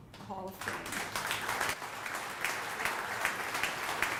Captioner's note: audience applauding